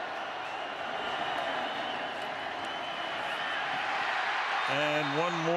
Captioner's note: cheers, applause